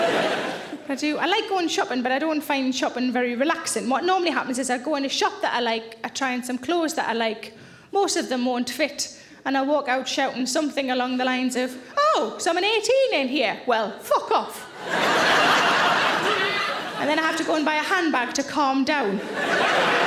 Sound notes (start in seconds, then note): 14.7 audience laughing